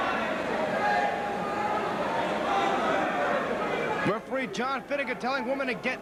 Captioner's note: crowd chatter